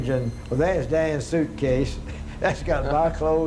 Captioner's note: laughs